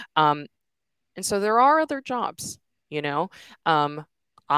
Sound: none

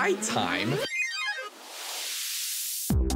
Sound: digital blipping

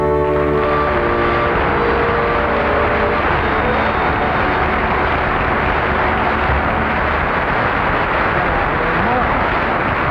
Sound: audience applauding

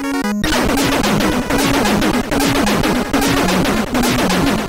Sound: game audio

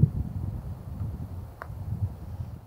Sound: soft thump

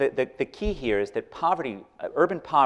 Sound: none

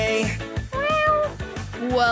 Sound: meowing

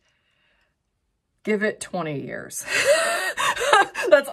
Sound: chuckles

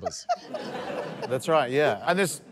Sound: laughter

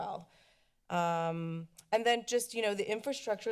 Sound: clicks tongue

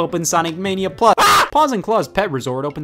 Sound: shouting

